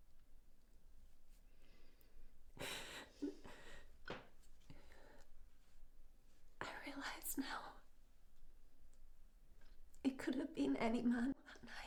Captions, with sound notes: (Marianne continues crying softly) I realise now it could have been any man that night,